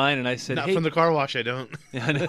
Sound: both laugh

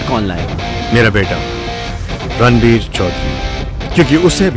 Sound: Rajbir on radio

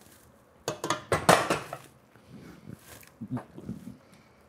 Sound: dish falling

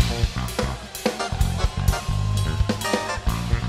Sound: cheers

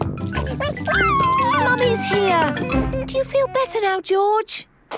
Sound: George crying

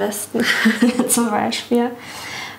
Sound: laughs

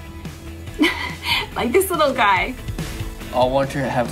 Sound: chuckling

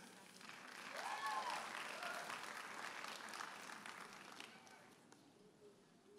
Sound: audience applauding and cheering

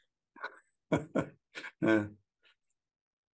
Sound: laughing

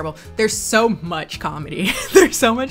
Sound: laughs

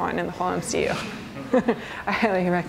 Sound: soft laughter

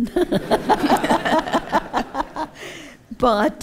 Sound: laughter

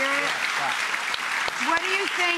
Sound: clapping

